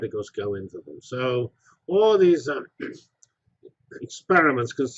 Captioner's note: cough